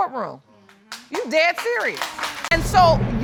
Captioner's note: applause